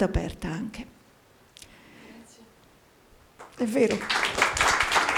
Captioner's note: Applauso